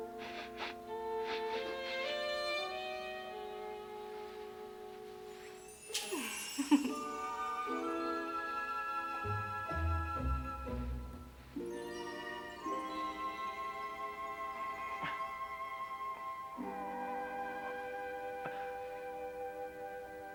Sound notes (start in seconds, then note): 0.0 sniffs; 6.0 venus chuckles; 14.0 struggling